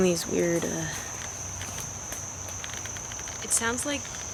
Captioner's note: wooden creaking